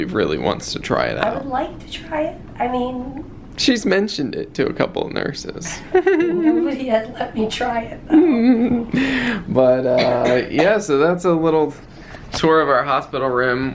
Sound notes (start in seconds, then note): 8.1 chuckling